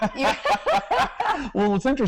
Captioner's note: laughter